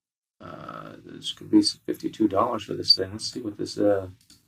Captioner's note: speaks faintly